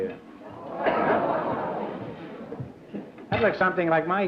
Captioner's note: audience gasps